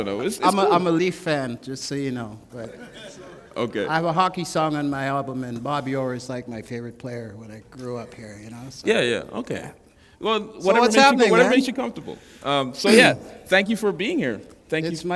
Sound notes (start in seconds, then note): 2.5 laughter